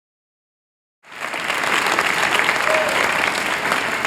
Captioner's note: applause